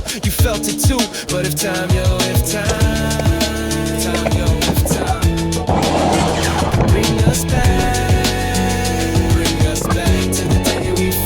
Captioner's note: echo: time, yo, if time